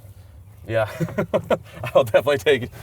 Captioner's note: laughs